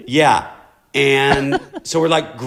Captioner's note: laughter